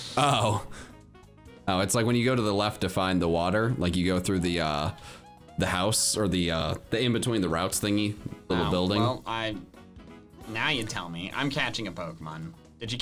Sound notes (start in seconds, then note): none